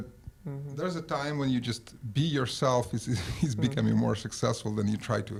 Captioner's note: laughs